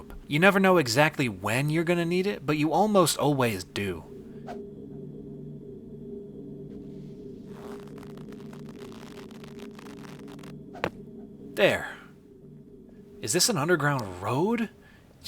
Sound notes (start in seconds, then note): 4.4 rope whooshes; 6.9 rope creaking